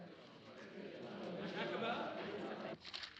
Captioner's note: chattering